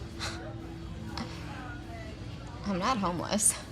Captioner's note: sighs